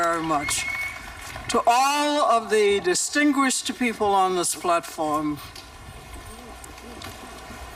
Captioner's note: applause